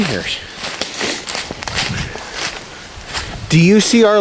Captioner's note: leaves crunching